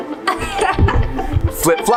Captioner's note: upbeat music; laughs